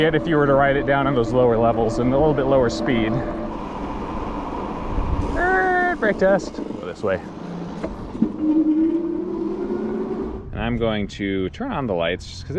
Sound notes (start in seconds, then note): 8.5 electric motor whirs